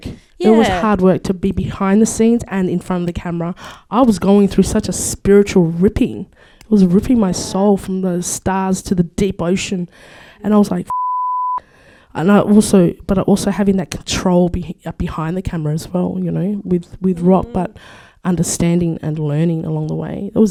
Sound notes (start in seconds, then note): 10.9 beep